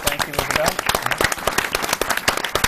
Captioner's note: applause